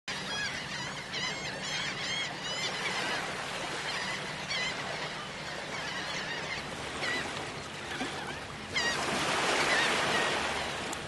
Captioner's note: seagulls Cawing